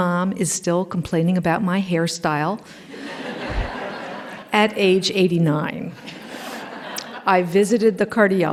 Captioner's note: laughter